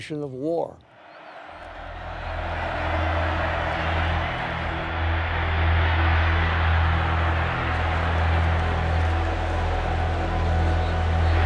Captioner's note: cheering